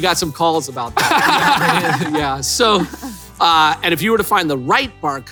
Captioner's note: laughs